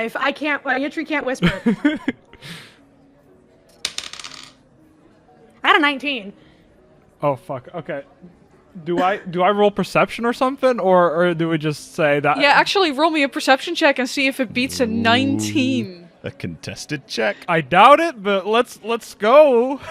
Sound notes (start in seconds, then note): 1.6 laughs; 3.8 dice clacks